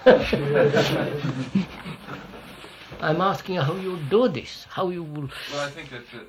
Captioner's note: laughs